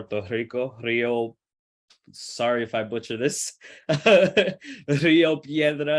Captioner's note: laughs